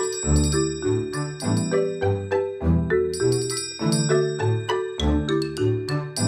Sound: tring tring sound

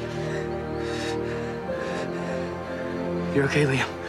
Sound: Liam breaths sharply

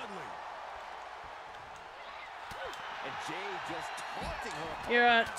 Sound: applause

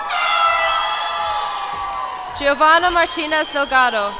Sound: cheers and applause

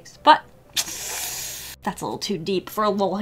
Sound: deep inhale

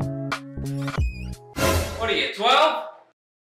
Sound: door opens

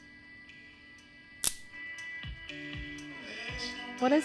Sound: twig snaps

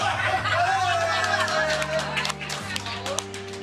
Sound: cheering

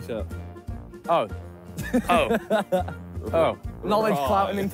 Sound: laughing

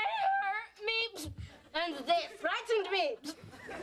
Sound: German accent

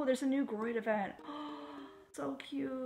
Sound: gasp

